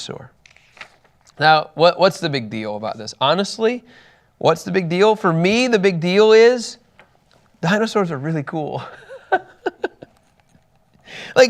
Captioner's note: laughs